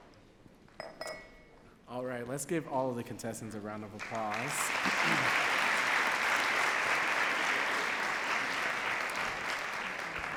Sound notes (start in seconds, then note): 6.1 audience claps